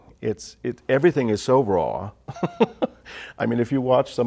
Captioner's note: laughter